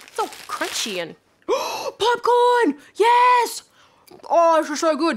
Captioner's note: gasps